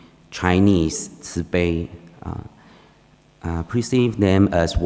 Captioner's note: speaking foreign language